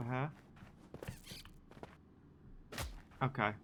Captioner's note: silk larva squeaks